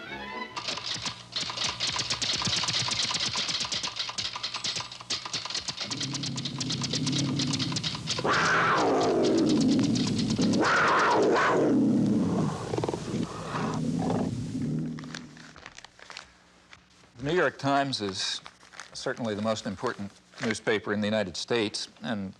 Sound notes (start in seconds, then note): 0.0 discordant music; 0.0 light music; 8.5 tiger roaring; 12.6 tiger snarling